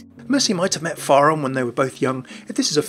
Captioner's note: voiceover